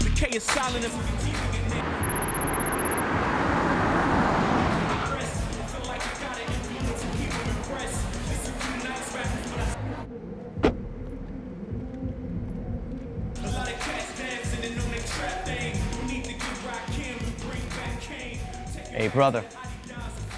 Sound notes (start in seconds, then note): 1.6 car engine roaring; 9.8 muffled rap music